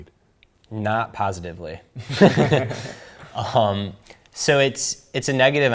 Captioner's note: laughs